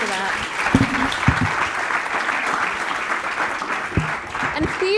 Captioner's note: applause